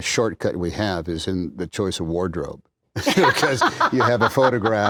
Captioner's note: laughter